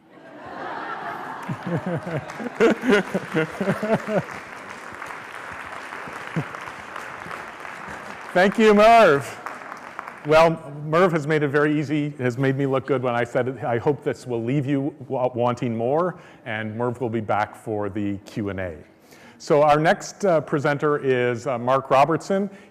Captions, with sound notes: [ Laughter ] [ Applause ] Thank you Merv. Well Merv has made it very easy. It has made me look good when I set it. I hope this will leave you wanting more and Merv will back for the Q and A. So our next presenter is Mark Robertson.